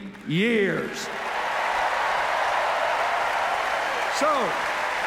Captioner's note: cheers, applause